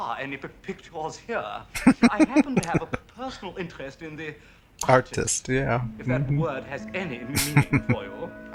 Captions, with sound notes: [Laughing] Artist. Yeah. Mm-hmm. [Chuckling]